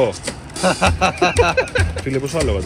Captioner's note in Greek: γέλια